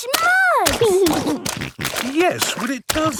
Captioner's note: snorting